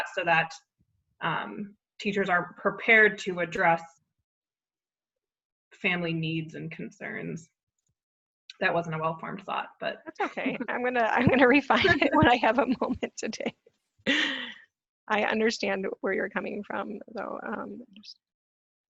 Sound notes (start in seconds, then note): 14.1 laughs